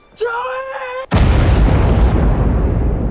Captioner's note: explosion